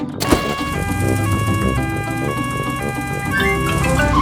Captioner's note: siren wails